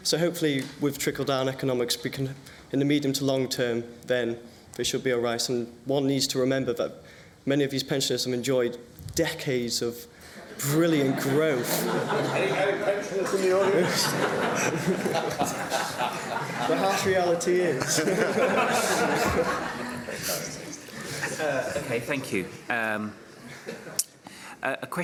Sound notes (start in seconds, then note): 13.1 laughter